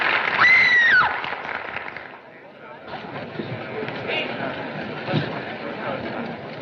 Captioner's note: applause; screams; applause Fades, Crowd Murmuring